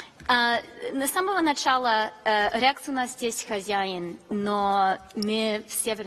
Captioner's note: speaks in a foreign language